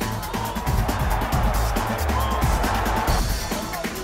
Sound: cheering

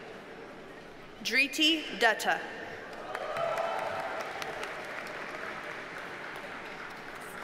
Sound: audience cheers and applauds

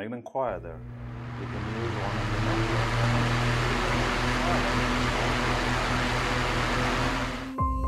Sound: loud fan turning on

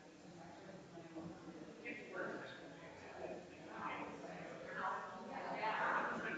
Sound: people chattering distantly continues

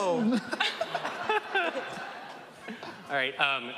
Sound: laughing

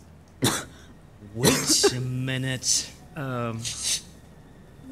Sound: sniff

